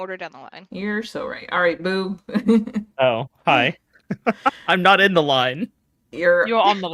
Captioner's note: laughs